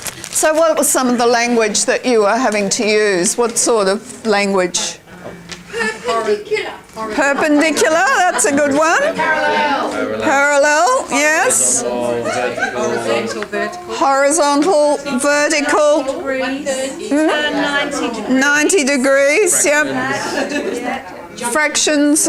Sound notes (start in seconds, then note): 11.9 participant chatter; 16.2 participant chatter; 20.0 participant chatter